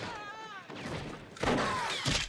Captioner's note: german soldiers screaming